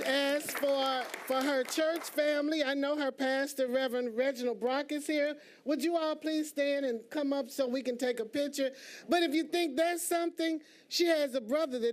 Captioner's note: applause